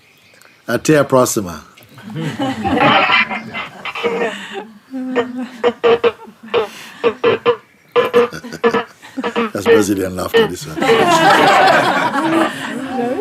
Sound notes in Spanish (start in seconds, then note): 0.2 en portugués; 3.4 Ruidos de conexión rota de Skype